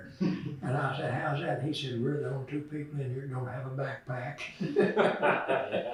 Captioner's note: laughter